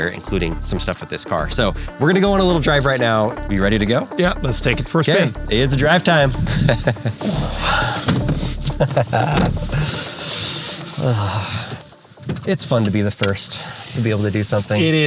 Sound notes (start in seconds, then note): 6.2 chuckles